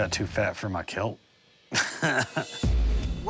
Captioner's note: laughs